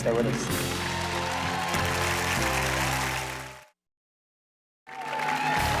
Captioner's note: audience cheers and applauds